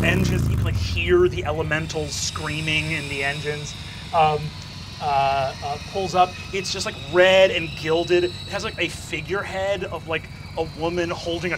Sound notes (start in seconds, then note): 4.5 hissing